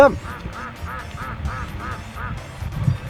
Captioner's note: ducks Quacking